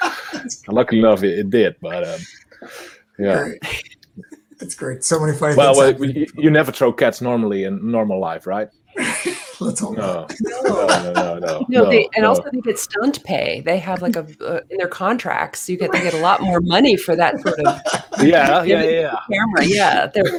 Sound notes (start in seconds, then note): 8.9 all laughing